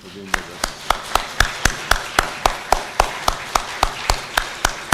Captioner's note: applause